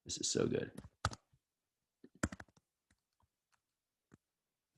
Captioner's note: keyboard typing